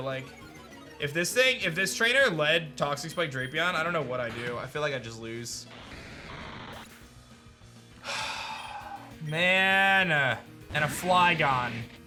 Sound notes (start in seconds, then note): 8.0 sighs